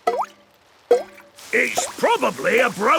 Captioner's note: water dripping